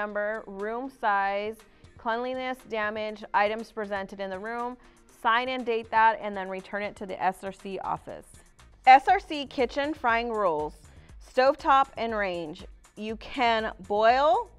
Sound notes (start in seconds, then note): none